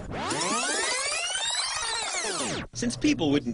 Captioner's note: sound of film rewinding